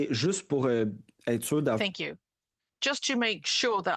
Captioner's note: speaking in French